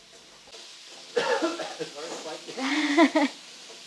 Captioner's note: camera man coughing